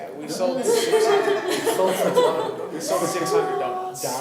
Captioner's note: laughing